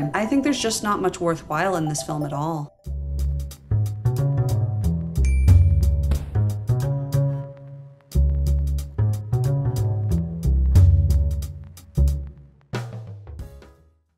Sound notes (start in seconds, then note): 2.9 jazzy outro; 5.2 ding; 6.0 thud; 6.3 jazzy outro